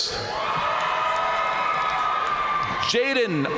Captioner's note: audience cheering and applauding